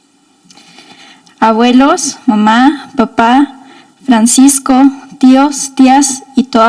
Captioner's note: speaking in foreign language